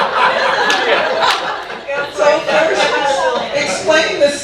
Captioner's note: audience laughing; man laughing